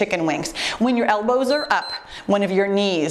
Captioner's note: timer beeps